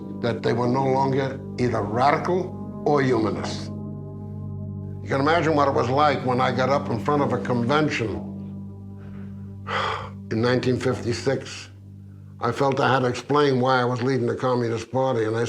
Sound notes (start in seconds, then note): 9.0 sighs